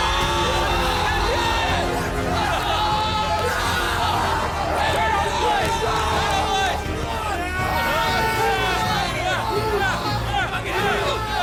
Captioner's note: cheering and Screaming in Celebration